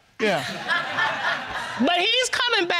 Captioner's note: audience laughs